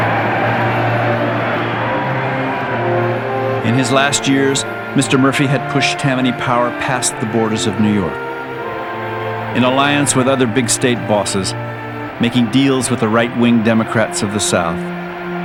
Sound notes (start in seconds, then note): 1.3 cheering